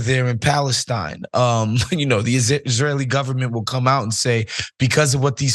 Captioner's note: laugh